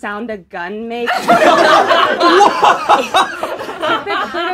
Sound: laughing

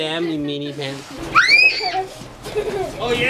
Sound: screams

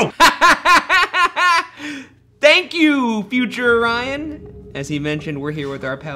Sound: laughs

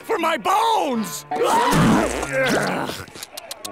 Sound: grunting

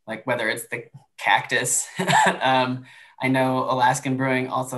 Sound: laughter

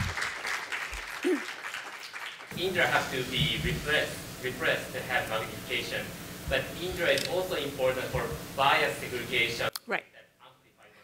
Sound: applause

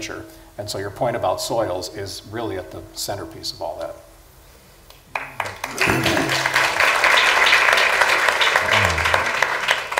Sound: applause

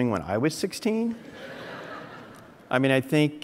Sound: audience laughing

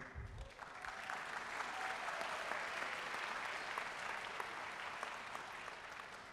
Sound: audience cheering and applauding

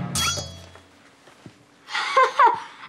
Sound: laughing

